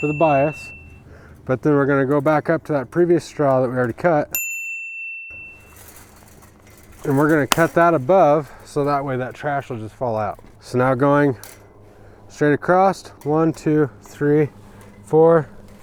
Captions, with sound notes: for the bias, but then we're gonna go back up to that previous straw that we already cut. (ding) And we're gonna cut that above, so that way that trash will just fall out. So now going straight across. One, two, three, four.